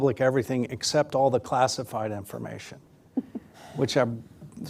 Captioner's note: laughs